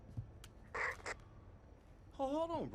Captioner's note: radio static crackling